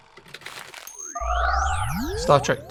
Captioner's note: film reel clicking; machine whirring